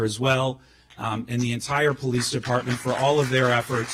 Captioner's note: clapping